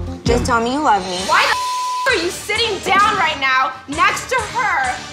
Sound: beep sound

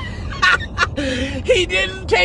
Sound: laughing

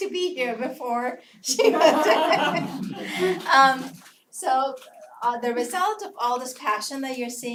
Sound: laugh

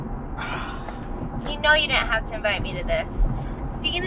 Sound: sighs

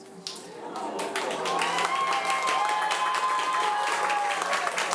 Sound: audience cheering

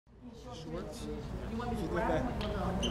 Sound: chatter

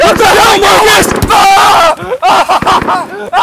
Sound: screaming in pain; bullet strikes flesh

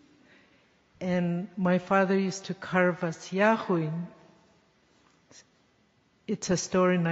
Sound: speaking yupik

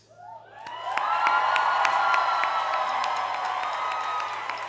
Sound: cheering

